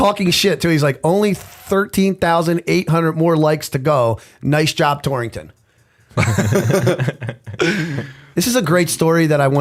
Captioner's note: chuckle